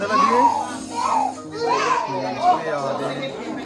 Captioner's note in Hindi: चीखने की आवाज़